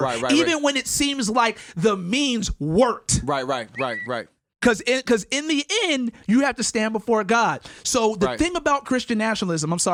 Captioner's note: tweet